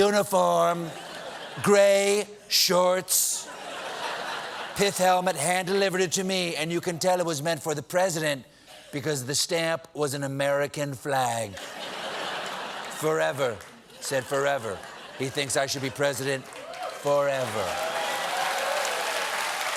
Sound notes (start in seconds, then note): 11.5 laughter